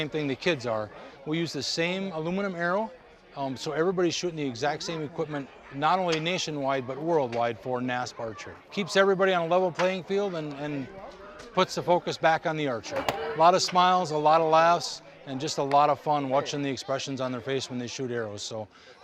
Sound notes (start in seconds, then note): 13.1 smack of arrow hitting target